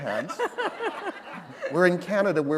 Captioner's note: laughter